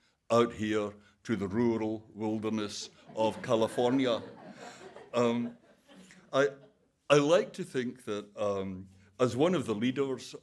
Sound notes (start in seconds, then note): 3.0 audience laughing